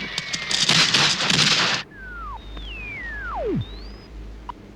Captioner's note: shortwave radio being tuned in